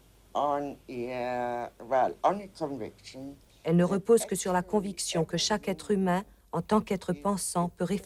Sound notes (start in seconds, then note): 3.5 woman translating into French